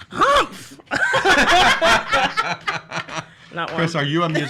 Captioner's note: everyone laughing